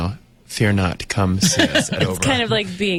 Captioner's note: laughs